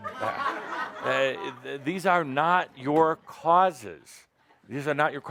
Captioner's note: laughter